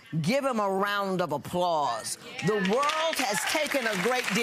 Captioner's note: applauding